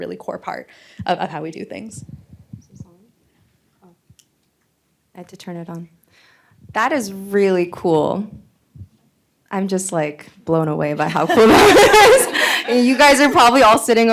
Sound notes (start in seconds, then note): 11.0 laughter